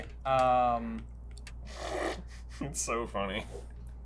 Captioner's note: loud snorting noise